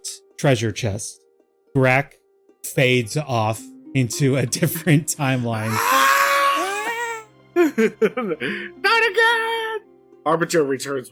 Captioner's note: screams fading in and out